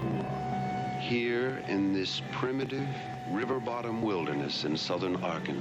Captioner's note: voiceover